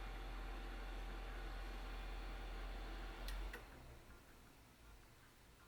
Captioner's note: projector wind-down sound